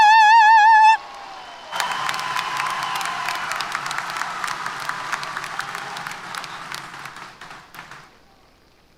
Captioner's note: applause & Cheers